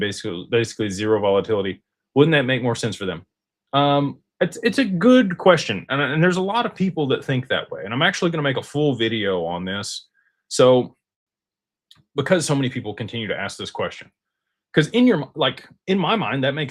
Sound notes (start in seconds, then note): none